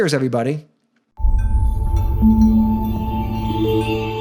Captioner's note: shimmering